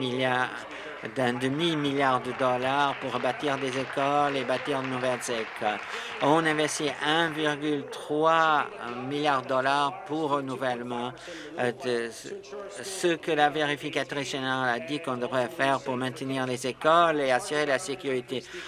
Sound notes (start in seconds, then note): 7.2 applause